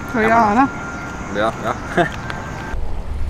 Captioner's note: laughs